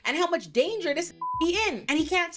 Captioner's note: beep